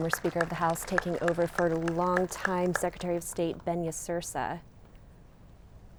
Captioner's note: applause